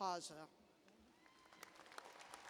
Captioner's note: applause